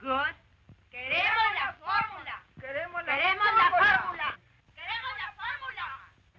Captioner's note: women chanting slogan in Spanish